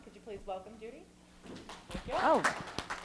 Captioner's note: attendees applauding